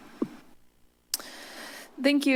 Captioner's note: clicks tongue